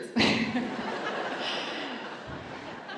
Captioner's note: laughter